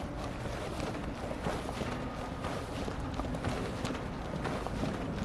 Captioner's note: heavy steps are hard and fast